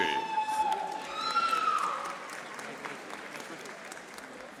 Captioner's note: audience applauding